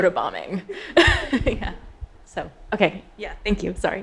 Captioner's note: all laughing